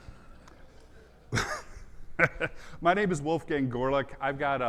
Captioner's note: audience laughs; laughs